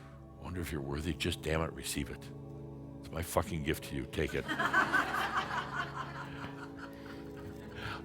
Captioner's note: laughter